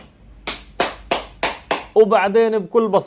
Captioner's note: claps lol